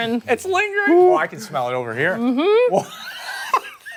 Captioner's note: laughter